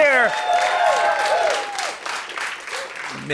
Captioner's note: cheers and applause